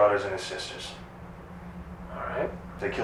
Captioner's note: vibration